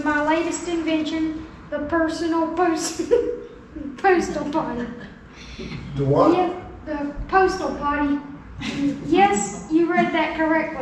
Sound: laughs

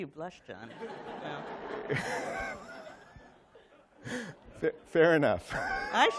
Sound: laughter

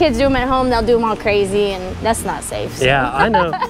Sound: laughs

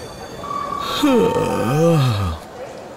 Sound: yawning

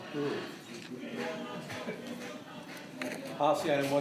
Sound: protesters Chanting

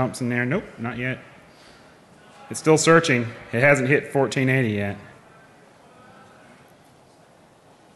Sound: laughing

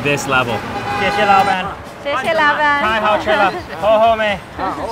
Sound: car horn blaring

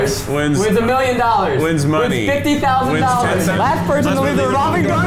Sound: chaotic rambling

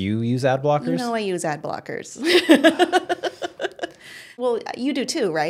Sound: laughs

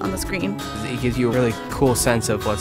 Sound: voiceover

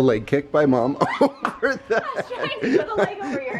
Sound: laughing

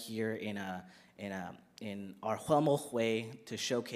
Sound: speaks in First Nations language

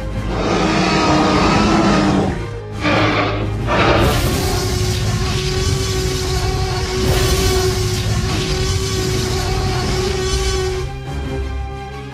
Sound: T-Rex roars loudly

